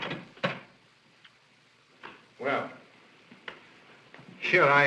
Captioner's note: door closes